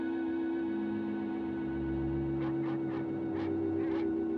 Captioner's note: barking in distance